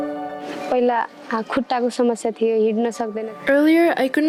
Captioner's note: non-english speech